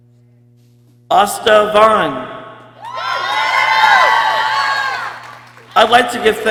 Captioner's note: people cheering